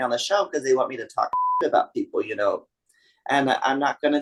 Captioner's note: beep